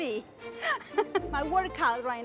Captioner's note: laughter